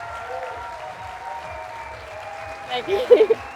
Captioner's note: applause